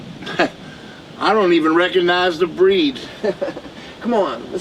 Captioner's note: laughs; Bradley laughs